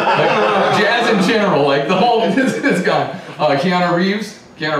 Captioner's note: laughter